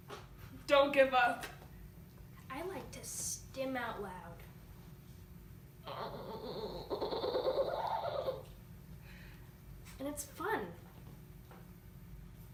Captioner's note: vocally stims